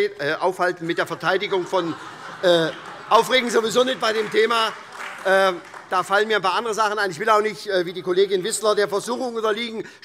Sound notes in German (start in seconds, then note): 0.9 Heiterkeit und vereinzelter Beifall SPD, CDU und Freie Demokraten